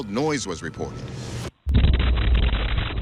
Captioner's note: loud explosion